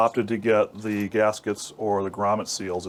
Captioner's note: none